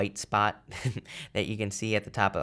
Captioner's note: chuckles